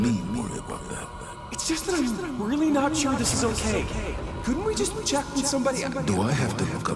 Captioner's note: as an echo from the past